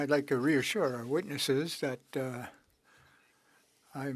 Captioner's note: speaking French